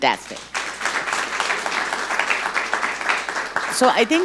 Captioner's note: audience clapping